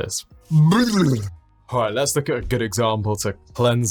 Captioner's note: shudders